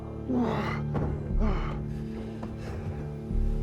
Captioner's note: men grunt in background; panting